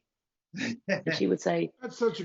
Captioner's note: laughs